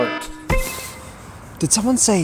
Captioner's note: bing!